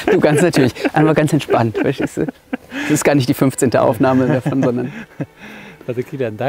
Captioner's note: laughs